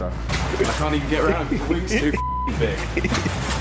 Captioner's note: beep